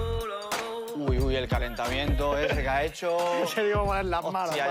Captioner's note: laughs